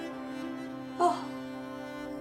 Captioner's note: Jane gasps